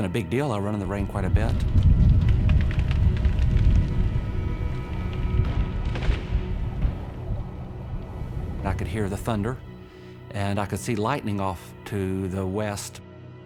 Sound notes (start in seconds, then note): 1.5 thunder booming